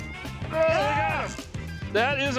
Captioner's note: both shouting